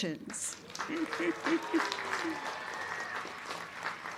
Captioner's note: crowd clapping